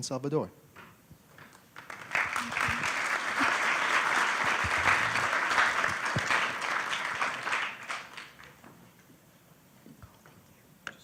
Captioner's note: applause